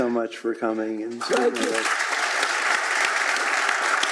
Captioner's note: applause